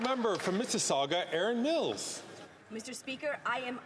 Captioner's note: some Applause